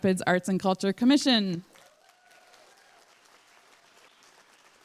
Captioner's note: applause